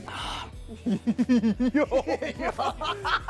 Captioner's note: laughing